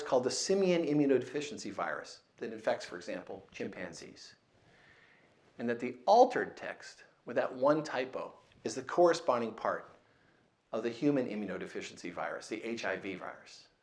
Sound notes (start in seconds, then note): none